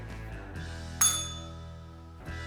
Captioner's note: bell rings